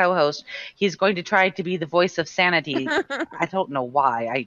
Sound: laughing

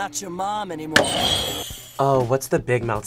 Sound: bell rings

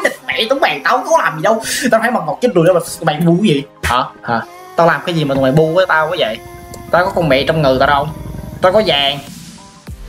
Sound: is talking bad language

